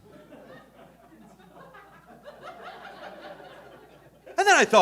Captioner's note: audience laughing